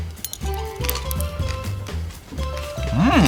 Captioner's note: crunching